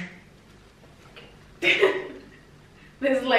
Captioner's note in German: laughs